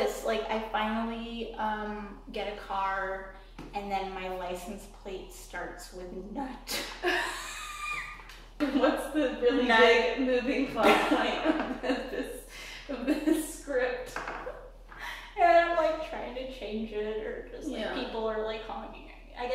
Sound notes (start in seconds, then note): 6.9 women laugh; 11.5 women laugh; 12.9 chuckles; 15.3 laughs